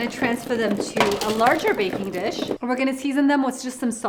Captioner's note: potatoes clattering